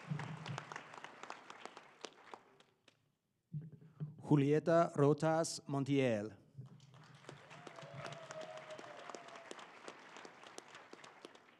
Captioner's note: applause